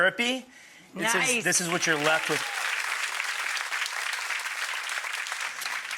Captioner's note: audience applause